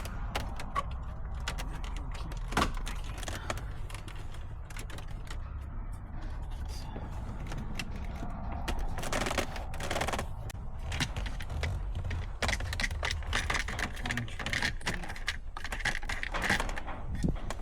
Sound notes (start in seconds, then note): 1.7 typing sounds